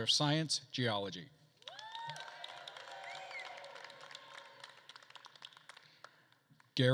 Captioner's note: attendees cheering and applauding